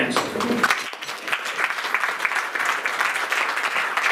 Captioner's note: applause